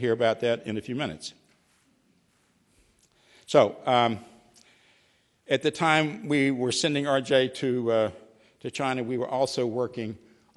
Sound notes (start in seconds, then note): none